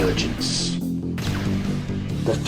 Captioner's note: gun firing